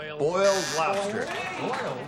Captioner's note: buzzer